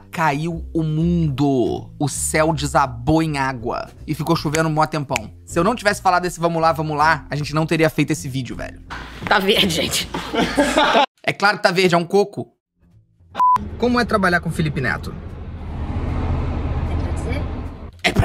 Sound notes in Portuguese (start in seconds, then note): 9.9 risadas; 13.4 som de bipe